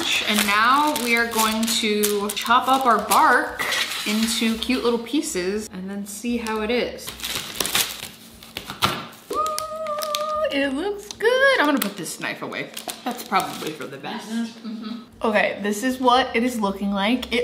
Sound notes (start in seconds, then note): 7.1 caramel apple bark crunching; 7.1 parchment paper rustling